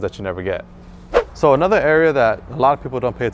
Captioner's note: whoosh